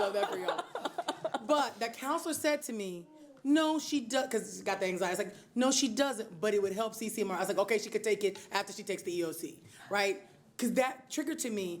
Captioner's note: laughter